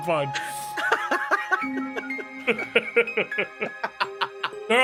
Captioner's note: laughing